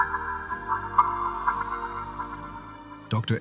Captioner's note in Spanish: Ecos en cueva